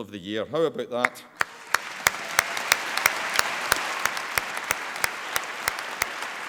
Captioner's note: applause